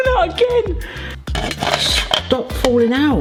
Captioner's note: laughs; spiralizer rattling